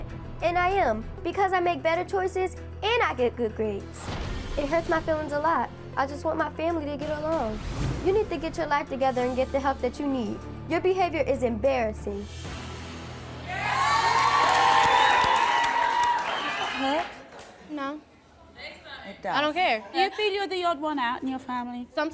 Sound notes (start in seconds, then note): 13.4 cheering